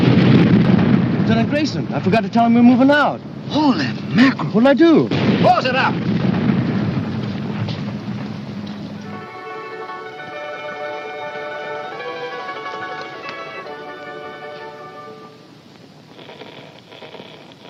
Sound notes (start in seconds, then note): 7.1 italian music playing on record; 13.6 scratching